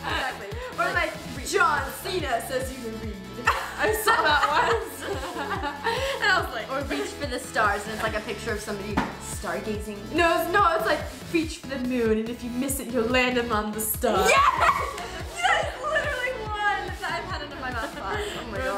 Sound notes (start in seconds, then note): 0.2 both laugh; 3.4 laughs